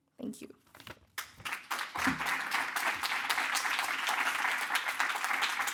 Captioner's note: audience applauding